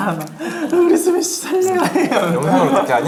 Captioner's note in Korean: 엉엉